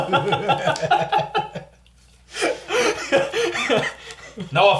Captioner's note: all laugh